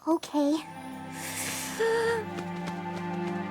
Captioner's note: inhales deeply